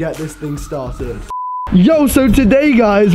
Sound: beep

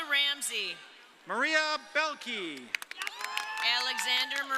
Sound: audience cheering

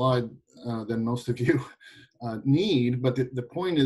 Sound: giggling

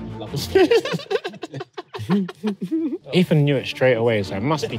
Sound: laughing

